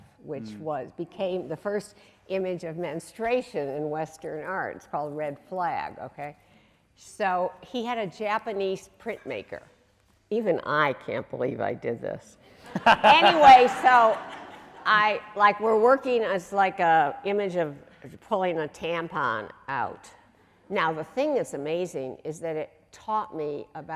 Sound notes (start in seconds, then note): 12.7 audience laughing